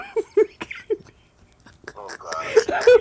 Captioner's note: laughter